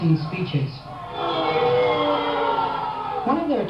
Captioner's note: booing